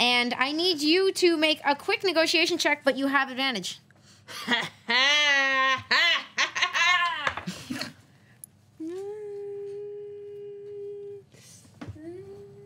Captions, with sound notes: and I need you to make a quick negotiation check, but you have advantage. (laughs) (humming)